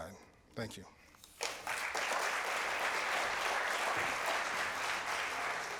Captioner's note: applause